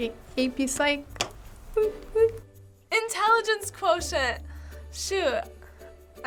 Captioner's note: none